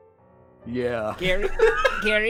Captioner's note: multiple people laugh